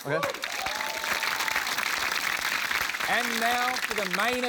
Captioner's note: cheering, applause